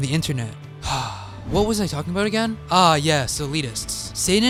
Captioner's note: sigh